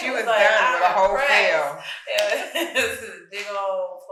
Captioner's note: chuckles; speaking faintly